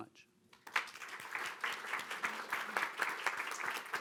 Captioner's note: audience clapping